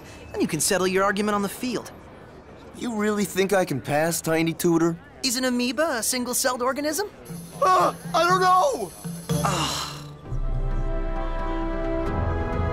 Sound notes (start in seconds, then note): 9.4 groans